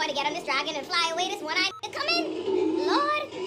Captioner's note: beep